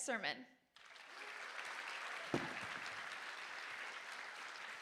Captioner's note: audience applauding